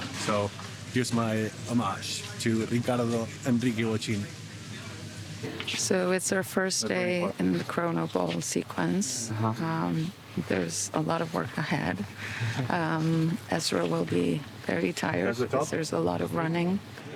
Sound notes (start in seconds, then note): 12.2 chuckles softly